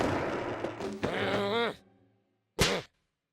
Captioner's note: grumbles